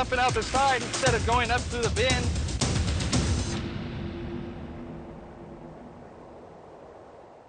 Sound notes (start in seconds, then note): 4.9 wind